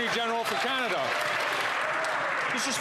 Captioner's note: applause